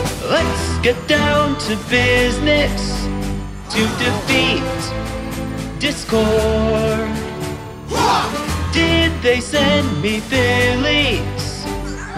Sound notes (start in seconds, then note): 7.8 war cry!